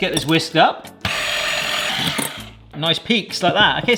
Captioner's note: whisk whirring